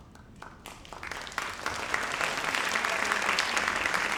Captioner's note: audience applauds